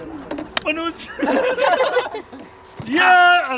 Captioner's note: laughing